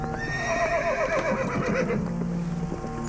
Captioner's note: horse whinnies